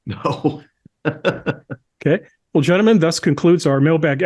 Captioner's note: laugh